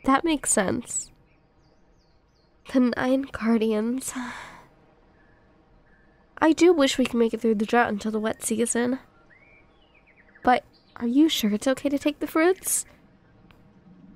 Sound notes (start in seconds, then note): 4.1 sigh